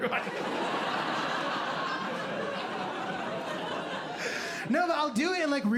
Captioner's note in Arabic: ضحك